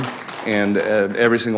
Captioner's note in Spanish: aplausos